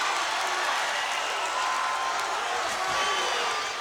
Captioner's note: crowd cheering